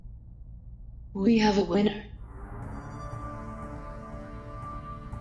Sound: voiceover

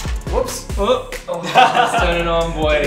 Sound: laughs

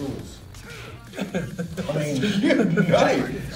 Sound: laugh

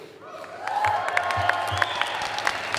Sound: audience applause

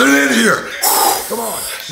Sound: sighs

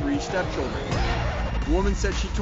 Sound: record scratch

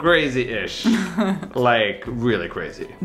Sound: chuckles

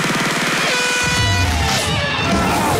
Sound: air horn; contestants cheering

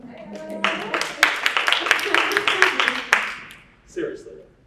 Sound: audience applauding

